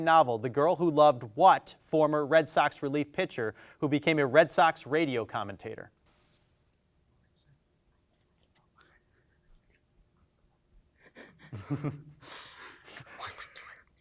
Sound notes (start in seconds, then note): 7.0 team whispers